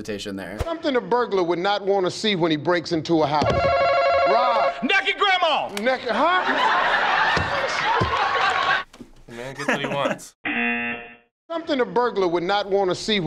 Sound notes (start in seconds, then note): 3.5 hitting buzzer; 5.8 audience laughing; 9.4 laughing; 10.4 buzzer